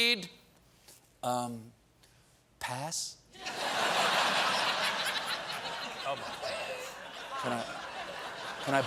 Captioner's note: laughter